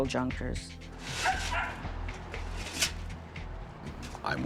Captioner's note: dog barking